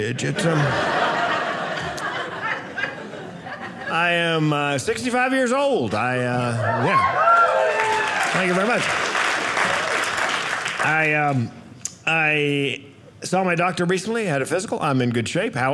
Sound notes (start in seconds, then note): 6.4 audience cheering; 9.1 audience applauding